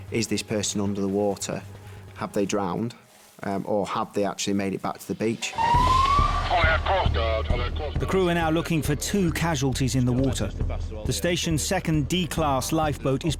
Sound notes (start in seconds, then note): 5.6 alarm blaring